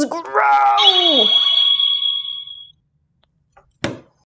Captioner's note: wand makes a vibrant sparkly sound